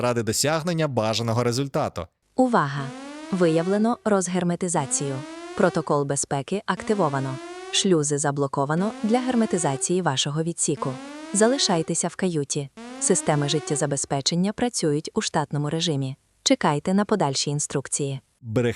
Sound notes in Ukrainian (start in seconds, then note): 2.4 звук сигнализації